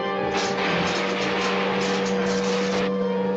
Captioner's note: machine buzzing